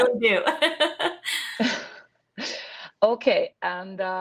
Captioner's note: laughing